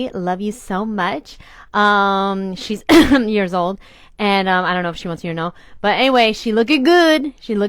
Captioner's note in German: hust